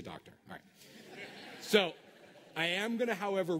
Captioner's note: laughter